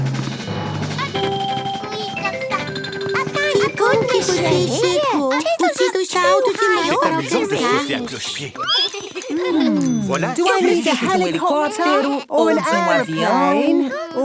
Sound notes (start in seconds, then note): 0.0 rapid music; 7.6 squeaking